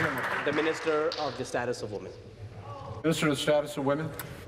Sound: applause

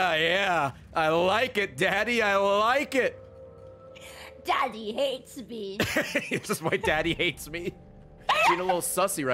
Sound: laughs

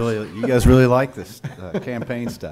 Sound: laughing

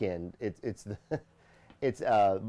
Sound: laughs

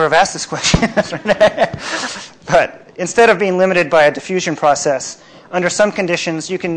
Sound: laughs

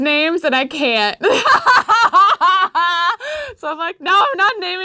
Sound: laughs

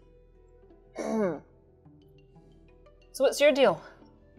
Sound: clears throat

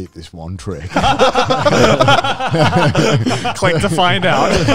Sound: all laughing

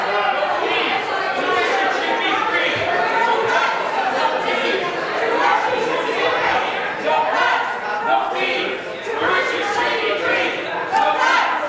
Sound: crowd Noise

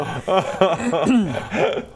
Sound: rightfully smug laugh

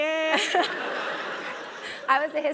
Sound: laugh

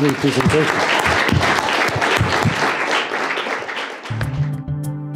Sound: applause; gentle synth music

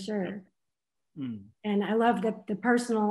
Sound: grunts encouragingly

